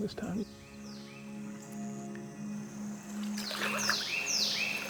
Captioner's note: birds chirping